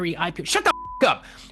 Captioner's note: beep